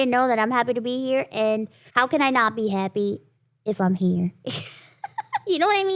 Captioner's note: laughs